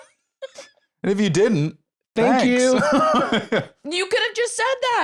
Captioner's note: laughs